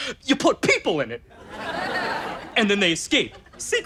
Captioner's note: audience laughter